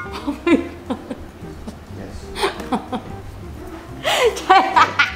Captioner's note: laughs